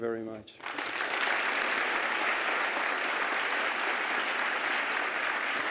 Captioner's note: applause